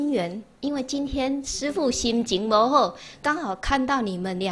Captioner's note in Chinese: 台語